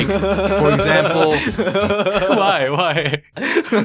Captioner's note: hysteric laughing